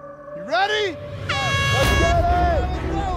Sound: horn blares

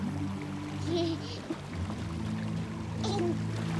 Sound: giggling

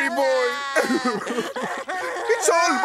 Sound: crying sounds

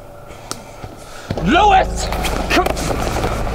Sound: shouts

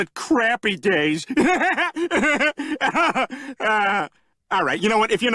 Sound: laughing

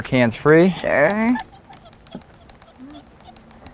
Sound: squeaking of clamp, no additional audio

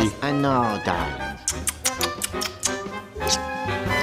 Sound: kissing

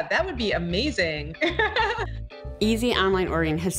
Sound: laughing

